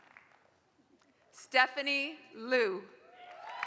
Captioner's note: applause